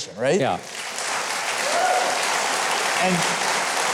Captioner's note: applause